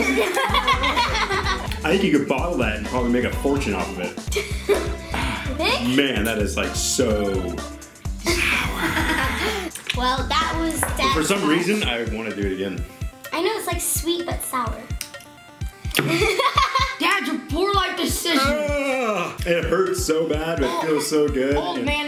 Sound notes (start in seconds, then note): 0.0 laughing; 16.0 laughing